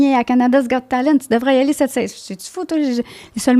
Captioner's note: in french